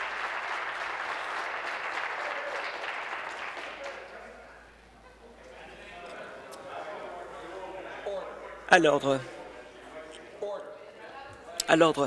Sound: applause

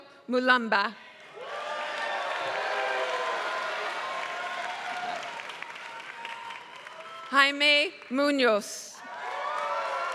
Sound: applause

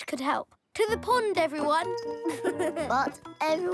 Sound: giggling

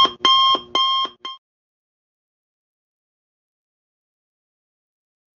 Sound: silent

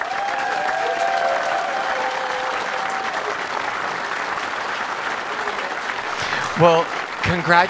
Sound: audience applause

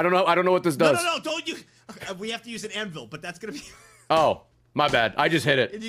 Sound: laughs

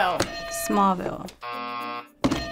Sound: bell rings; buzzer rings

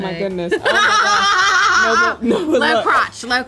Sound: laughter

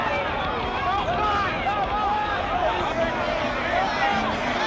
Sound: crowd shouts

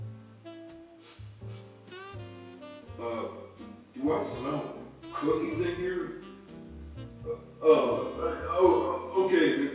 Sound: sniff

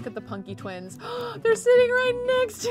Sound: gasps

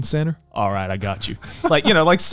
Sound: laughing

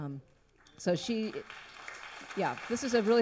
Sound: audience applauds

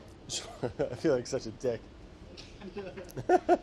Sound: laughing

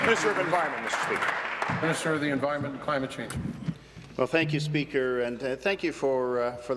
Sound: applause

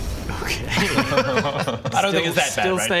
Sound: unsympathetic laughs

